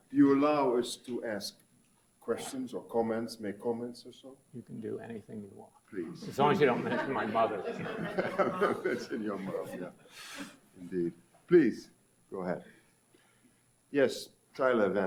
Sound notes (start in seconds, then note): 8.1 audience laughs; 8.1 laughs